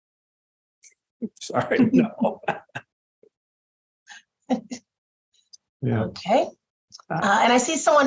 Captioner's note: laughter